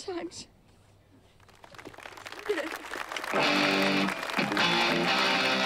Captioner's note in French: applaudissements